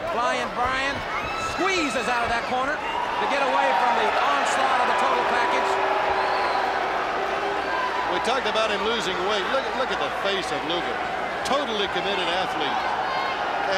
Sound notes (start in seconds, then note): 5.9 crowd clamoring